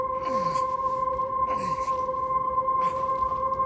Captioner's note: Larry groaning